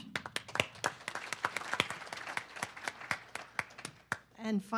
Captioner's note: audience clapping